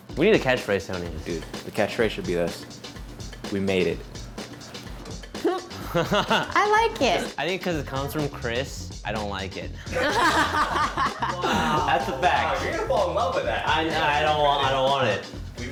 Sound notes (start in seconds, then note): 9.9 all laugh